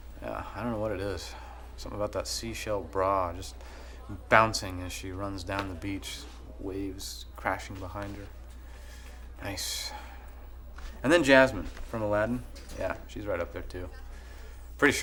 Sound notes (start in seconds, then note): none